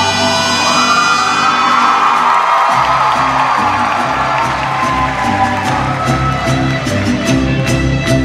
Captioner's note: cheers